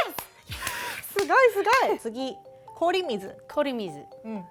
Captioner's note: speaking Japanese